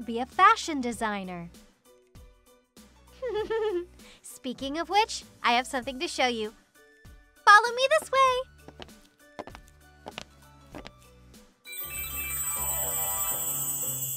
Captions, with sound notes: You should be a fashion designer! *giggles* Speaking of which, I have something to show you! Follow me this way!